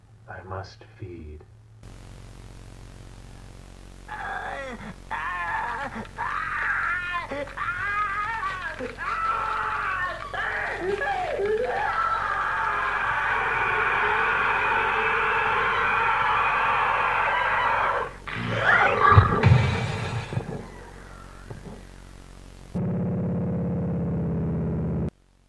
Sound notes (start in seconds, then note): 4.4 Langstrom screams; 4.4 Manbat screeches; 4.4 bones crunching